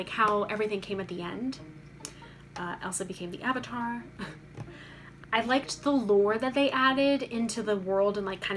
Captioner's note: chuckles